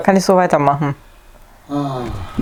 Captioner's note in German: Aus dem Off; stöhnen